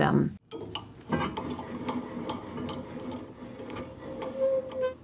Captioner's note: wheel creaking